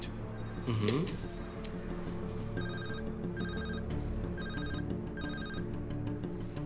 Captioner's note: phone ringing